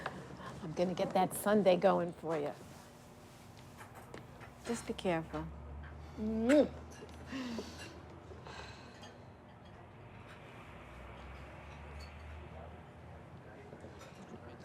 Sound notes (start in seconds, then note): 6.4 lips smacking; 9.8 cars humming; 13.7 dishes rattling; 13.7 people chattering